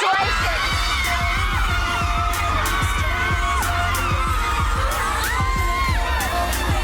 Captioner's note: upbeat music; women cheering